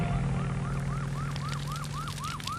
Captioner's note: sirens; fire burning; fire alarm